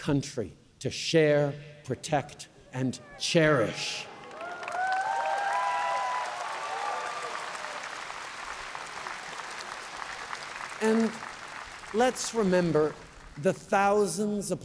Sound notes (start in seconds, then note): 3.4 cheers & applause